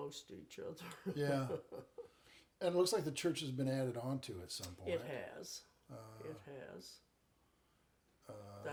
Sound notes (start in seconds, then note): 0.9 chuckles